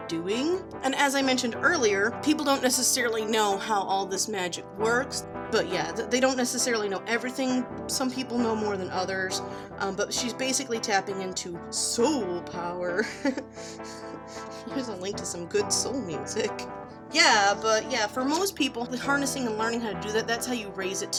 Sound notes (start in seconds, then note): 12.9 giggles